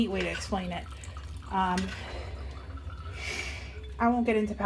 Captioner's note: milk dripping